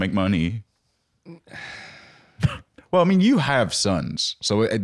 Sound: Link sighing

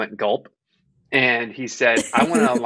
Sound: laughing

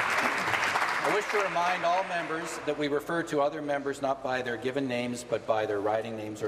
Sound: applause

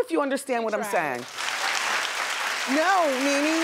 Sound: audience applauds

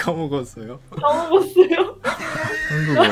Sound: Korean

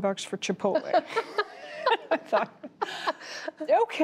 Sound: laughter

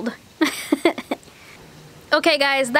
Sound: laughing

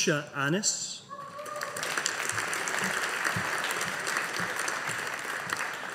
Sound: audience applauding

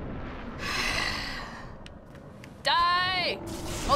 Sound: sighs deeply

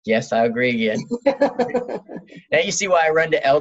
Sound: laughs

